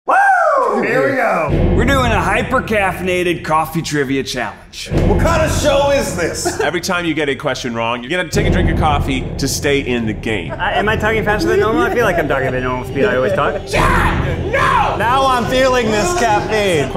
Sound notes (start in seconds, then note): 0.0 whoops excitedly; 4.8 dramatic music